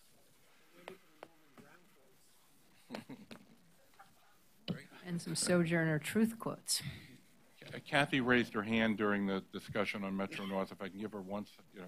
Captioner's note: laughter